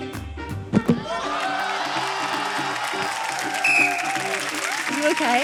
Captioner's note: cheering, applause